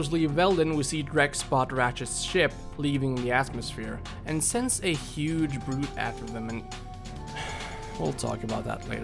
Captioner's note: sigh